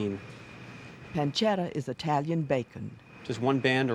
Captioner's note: voiceover